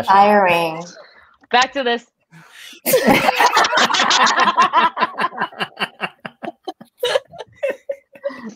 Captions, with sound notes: third confession. - That's inspiring. - Back to this. (laughter)